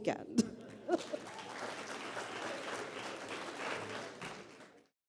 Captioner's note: applause